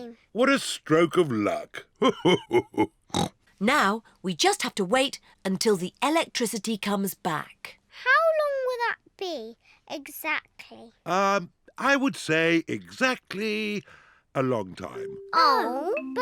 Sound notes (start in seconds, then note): 1.9 laughs; 3.1 snorts